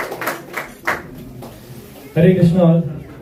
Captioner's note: applause